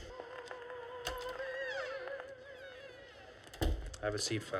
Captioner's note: opera playing; door opens and closes